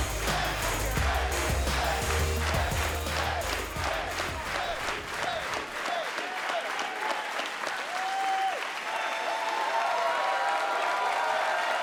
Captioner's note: crowd cheering